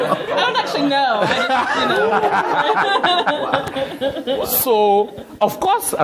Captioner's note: laughter